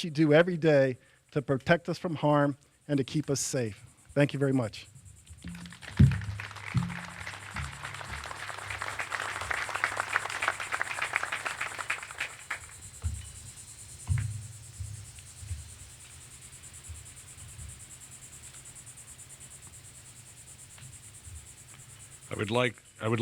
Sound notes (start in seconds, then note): 10.7 applause